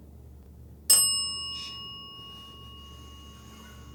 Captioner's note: bell dings